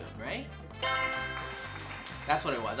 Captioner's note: answer board chimes; crowd claps